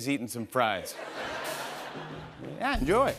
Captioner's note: laughter